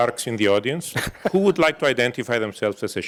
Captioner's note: laugh